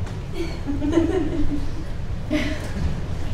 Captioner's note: laughing